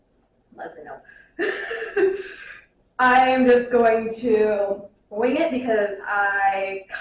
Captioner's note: laughs